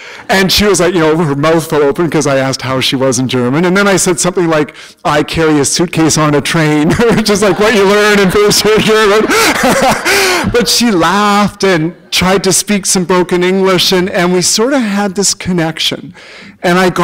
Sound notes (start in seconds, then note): 6.8 laughter; 9.2 chuckle